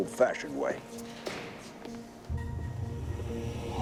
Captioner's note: footstep